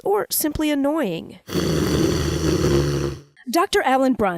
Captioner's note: snoring